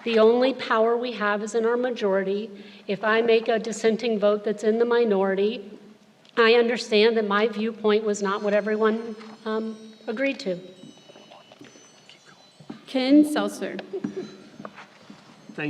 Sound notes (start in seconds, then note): 12.6 whispering; 13.7 laughs